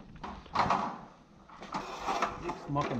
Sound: rattling

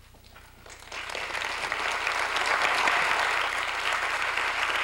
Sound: applause

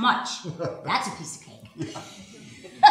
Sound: laughs; chuckling

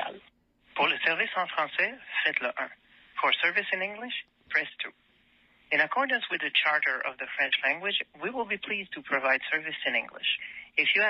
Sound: speaking French

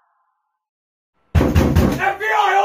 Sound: door knocking

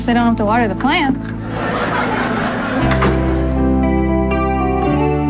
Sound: audience laughs

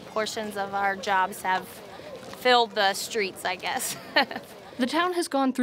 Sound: laughs

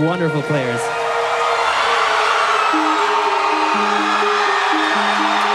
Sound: cheering

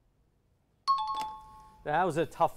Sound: timer bell

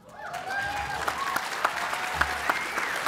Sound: applause

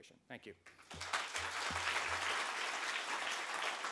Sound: applause

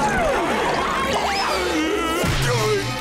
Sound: moaning

